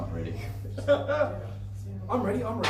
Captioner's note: laughing